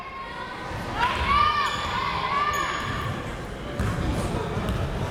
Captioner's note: crowd members shouting